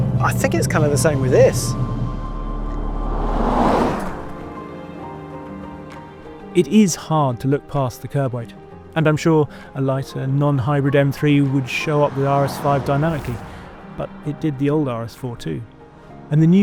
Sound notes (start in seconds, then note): 2.4 upbeat music continues; 2.4 vehicle revs